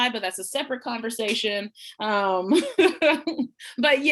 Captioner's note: laughs